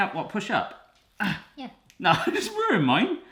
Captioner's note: grunts